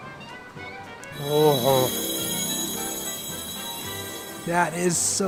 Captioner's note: magical sounds